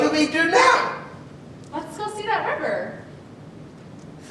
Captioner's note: none